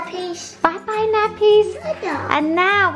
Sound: baby sounds

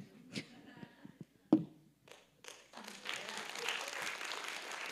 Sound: audience applauding

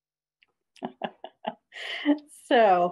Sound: laughs

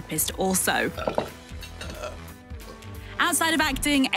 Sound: belching

